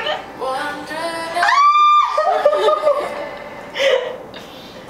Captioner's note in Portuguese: gritos